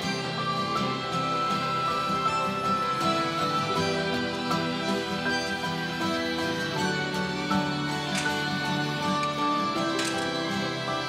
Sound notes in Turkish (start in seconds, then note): 7.9 Kapı açılıyor